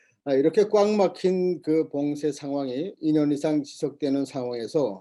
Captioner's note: speaking Korean